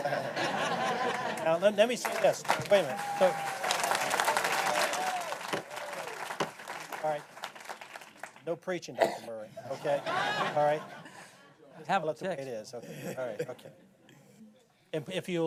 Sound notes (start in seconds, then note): 6.1 �cheers and applause�